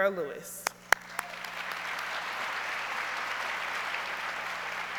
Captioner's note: audience applauds